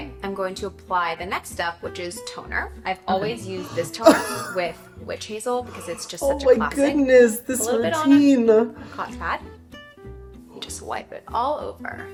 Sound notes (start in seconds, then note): 3.1 coughing